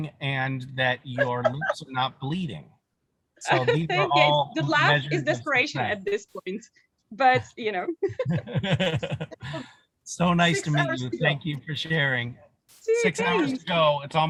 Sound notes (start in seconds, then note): 4.1 laughter